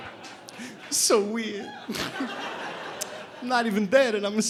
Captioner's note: imitating vinnie barbarino